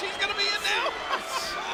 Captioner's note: laugh